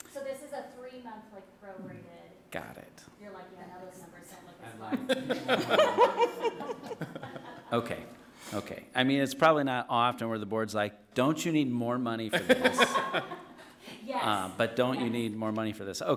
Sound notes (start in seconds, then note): 4.8 people laughing and chattering; 12.3 people laughing